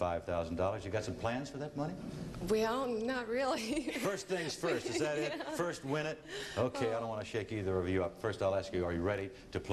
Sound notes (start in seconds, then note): 2.7 laughing